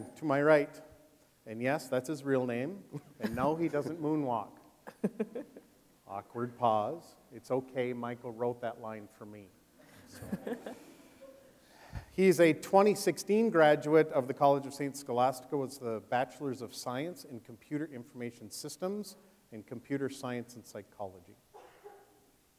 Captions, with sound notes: Michael Jackson, to my right. And yes, that's his real name and no, he doesn't moonwalk. Awkward pause. It's okay, Michael wrote that line for me. (audience chuckling) He is a 2016 graduate of the College of St. Scholastica with a bachelor's of science and computer information systems and computer science and psychology.